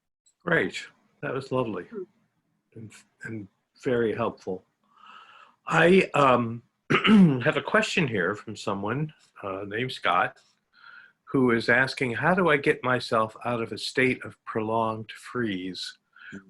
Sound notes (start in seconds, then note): 6.9 clears throat